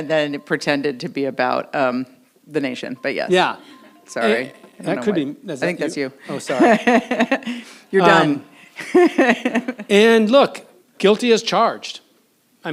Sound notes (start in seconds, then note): 6.3 laughs; 8.7 laughs